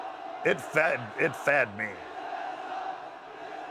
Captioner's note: applause